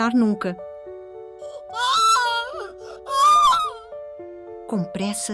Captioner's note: groaning in pain